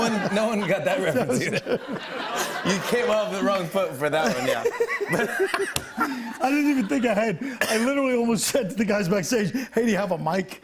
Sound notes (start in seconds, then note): 0.0 laughs; 4.2 laughter